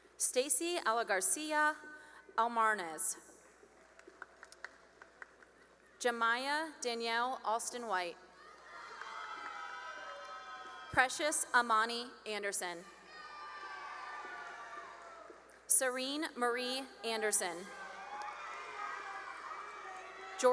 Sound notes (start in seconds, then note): 3.2 cheering and applause; 8.3 cheering and applause; 12.8 cheering and applause; 17.2 cheering and applause